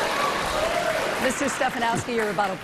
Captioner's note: applause